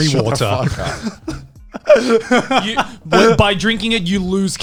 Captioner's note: laughs